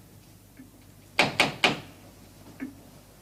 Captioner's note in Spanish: Llaman a la puerta